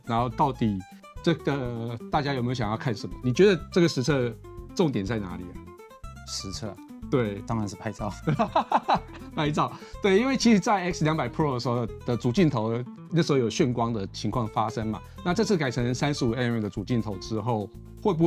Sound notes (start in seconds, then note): 8.3 laughs